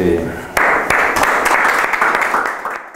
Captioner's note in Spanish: aplausos